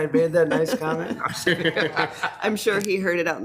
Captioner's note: group laughs